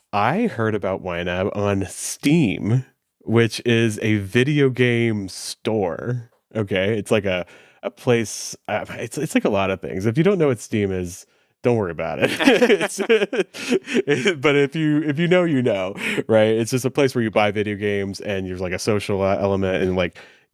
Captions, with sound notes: I heard about YNAB on Steam, which is a video game store, okay? It's a like place... It's like a lotta things. If you don't know what Steam is, don't worry about it. (both laughing) But if you know, you know, right? It's just a place where you buy video games and there's like a social element and like,